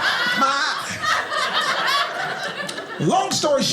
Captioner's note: audience laughing